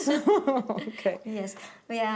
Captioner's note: laughter